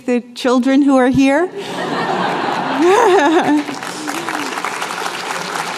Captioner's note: laughter, applause